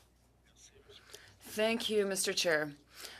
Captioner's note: speaking French